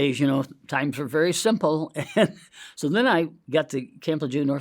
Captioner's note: chuckles